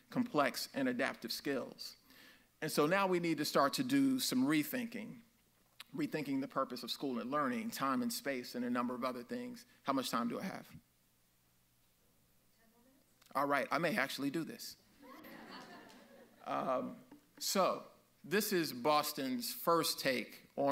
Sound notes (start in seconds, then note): 15.0 audience laughs